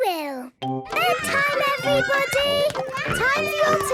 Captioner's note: children playing